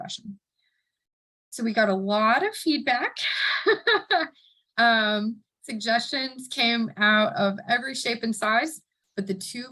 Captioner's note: laughing